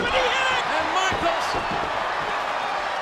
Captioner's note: audience cheering and clapping; body thuds